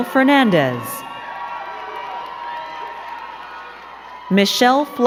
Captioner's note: crowd cheering and clapping